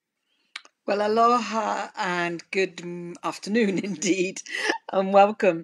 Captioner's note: chuckles